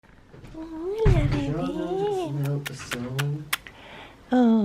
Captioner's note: muack muack muack